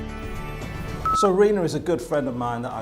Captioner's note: beeping